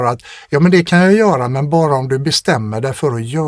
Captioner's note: none